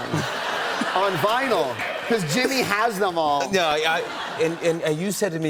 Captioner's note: laughter